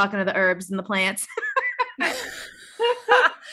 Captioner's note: laughs